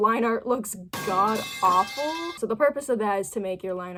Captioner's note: pipe falling